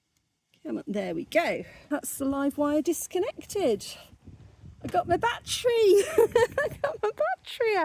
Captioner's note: laughing